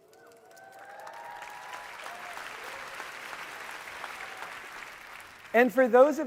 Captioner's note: audience cheering and applauding